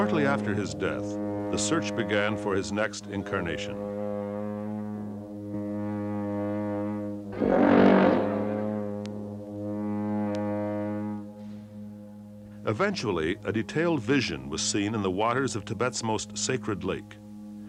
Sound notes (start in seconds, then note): 0.0 a long horn sounds; 7.2 long horn continues; 12.1 long horn sounds